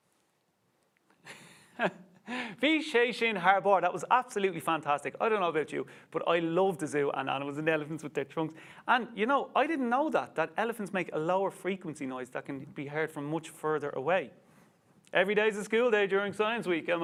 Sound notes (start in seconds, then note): 2.7 speaks Irish